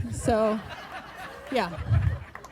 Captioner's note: group laughing